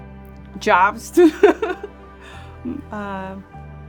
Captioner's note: laughs